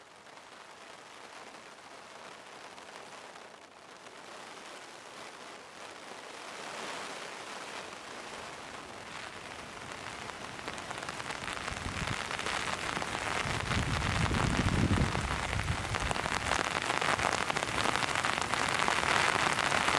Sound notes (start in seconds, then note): 1.5 sound of heavy rain